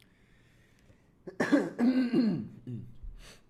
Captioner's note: cough